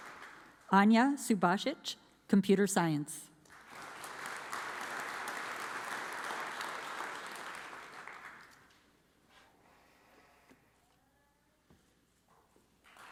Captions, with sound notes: Anya Subasgitch, Computer Science. (audience applauds)